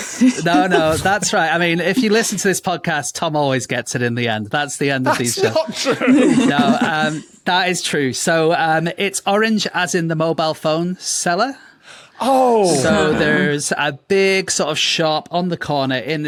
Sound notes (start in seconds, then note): 0.0 guests laughing; 5.1 laughs; 5.1 giggles